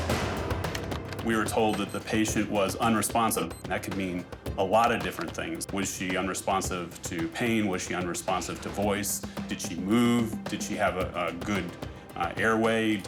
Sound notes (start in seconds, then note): 0.3 dramatic drums; 1.6 keyboard clicks